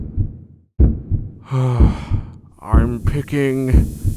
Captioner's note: sigh